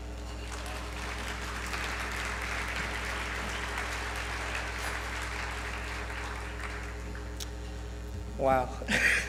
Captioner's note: applause